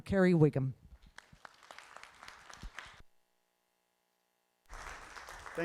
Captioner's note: applause